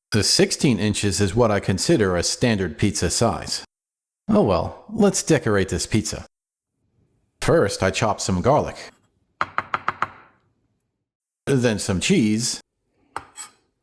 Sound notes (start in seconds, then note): 9.4 chop chop chop